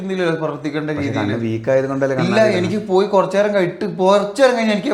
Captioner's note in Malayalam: തൊണ്ട ശരിയാക്കുന്നു